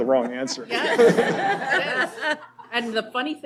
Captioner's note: laughter